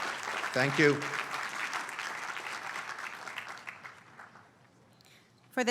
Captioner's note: applause